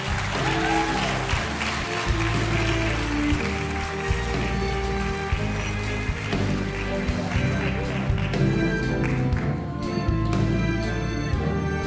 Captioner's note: cheering and applause